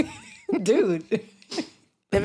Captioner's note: laughter